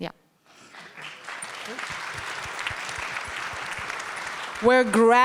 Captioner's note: everyone applauding